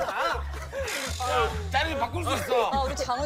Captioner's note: can't stop laughing